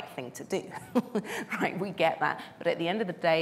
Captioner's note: chuckling